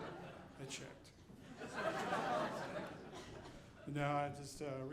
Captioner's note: audience laughing